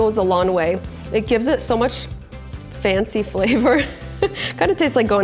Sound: laughs

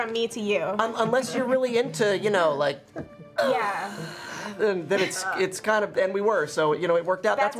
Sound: choking noises

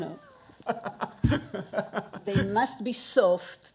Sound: laughing

